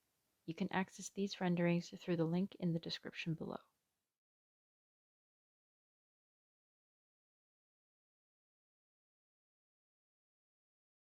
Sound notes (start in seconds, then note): 4.4 silence